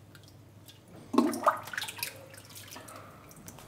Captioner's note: bubbling